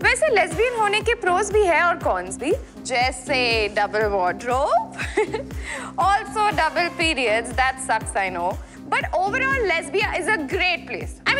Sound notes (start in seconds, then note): 5.2 Laughs